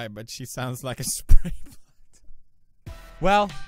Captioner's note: silently laughs